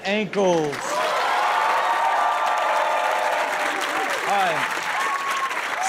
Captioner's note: audience claps and cheers